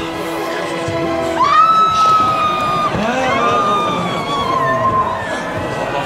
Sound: woman screams

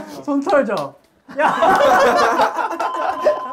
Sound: hahahaha

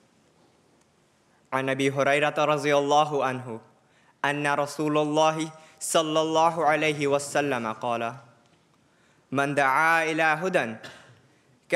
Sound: Arabic

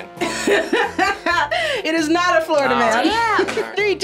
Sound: laughs

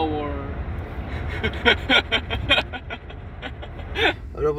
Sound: mute laugh

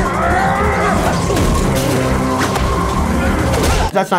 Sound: crash

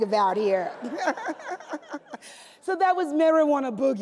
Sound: laughs

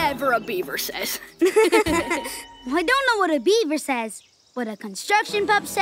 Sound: laughing

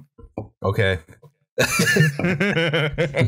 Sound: laughter

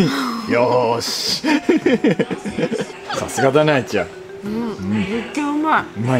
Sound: laughter

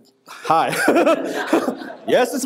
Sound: laughs

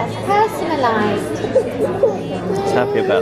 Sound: cries

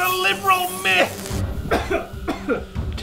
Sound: coughs

